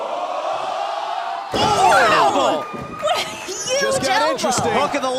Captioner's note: fans chanting